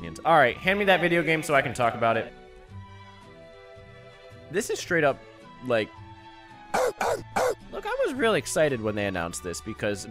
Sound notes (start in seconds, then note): 6.6 DMX noises